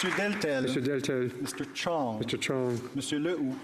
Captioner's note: applause